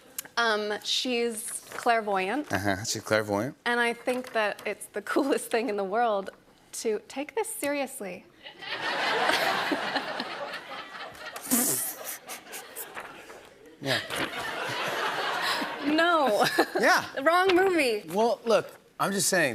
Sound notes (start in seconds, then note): 8.4 laughter